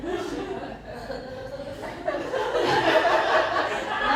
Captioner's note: laughter